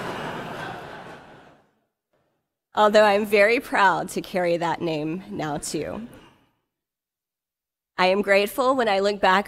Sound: laughter

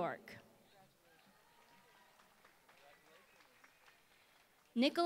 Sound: applause

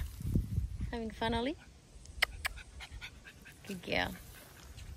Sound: makes kissie noises

